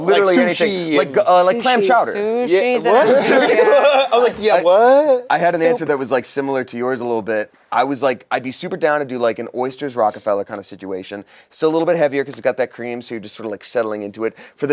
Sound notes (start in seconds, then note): 2.9 laughs